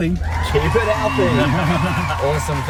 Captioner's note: people cheering